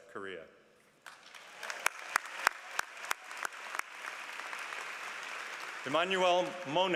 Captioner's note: applause